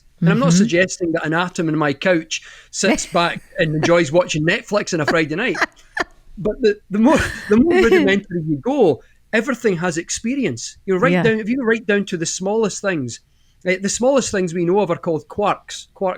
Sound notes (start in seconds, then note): 4.9 laughs